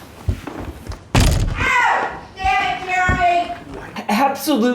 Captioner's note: hits door jam